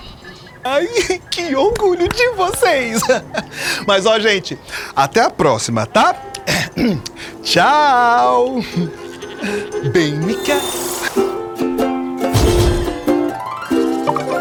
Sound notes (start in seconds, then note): 6.2 Chico clears his throat